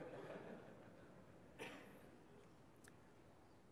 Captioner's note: audience laughs